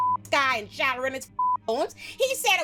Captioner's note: beep; beep